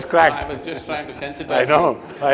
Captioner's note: laughter